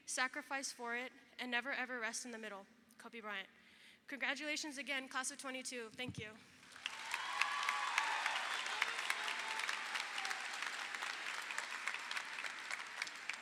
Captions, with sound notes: sacrifice for it, and never, ever rest in the middle," Kobe Bryant. Congratulations again, Class of '22, thank you. (audience applauds) (audience cheers)